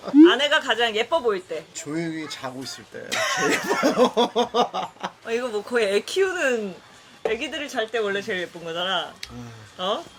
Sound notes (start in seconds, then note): 3.2 laughing